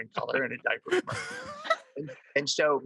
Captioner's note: all laugh